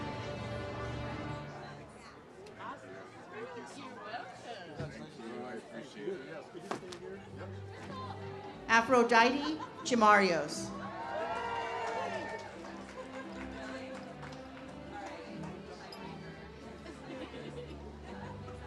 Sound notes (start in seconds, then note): 10.8 audience cheers; 15.5 ceremonial music